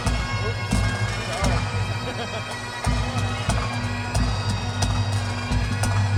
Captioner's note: laughs